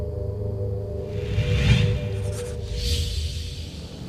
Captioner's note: whooshing